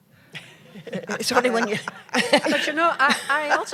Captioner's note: laughter